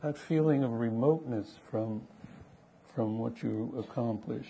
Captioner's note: none